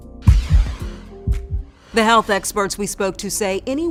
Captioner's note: swoosh effect